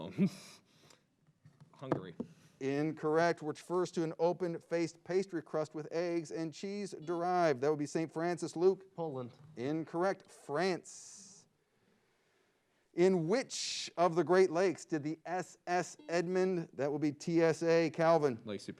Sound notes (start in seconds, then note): 7.1 buzzer beeps; 16.5 buzzer beeps